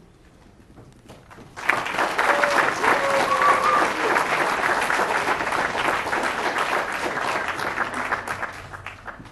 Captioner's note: applause